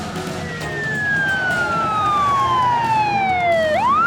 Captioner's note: siren wailing